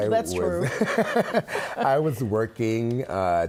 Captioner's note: laughing